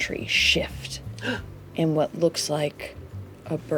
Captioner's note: gasps